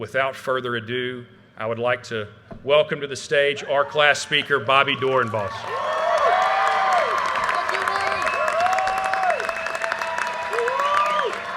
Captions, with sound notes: Without further ado, I would like to welcome to the stage our class speaker, Bobbi Doorenbos. (audience cheers and applause) - Thank you, Nate. (applause)